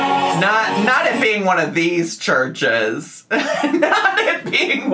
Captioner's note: laughs